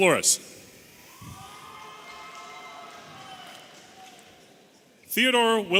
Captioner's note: audience cheering